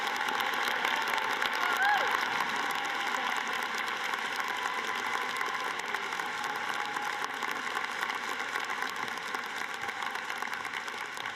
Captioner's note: applause